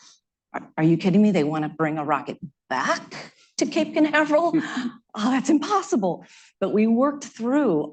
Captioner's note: laughter